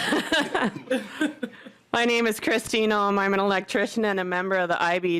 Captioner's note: laughter